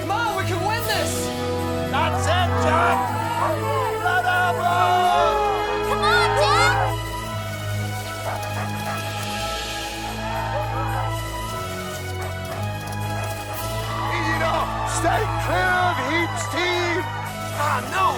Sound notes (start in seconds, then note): 8.7 Buck panting